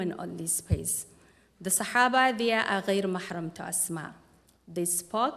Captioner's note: non-english speech